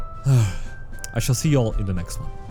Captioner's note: sigh